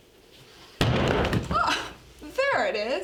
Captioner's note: thud